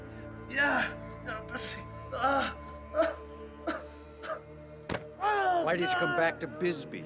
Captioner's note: GROANs